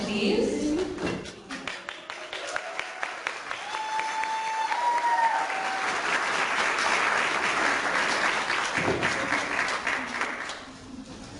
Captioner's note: clapping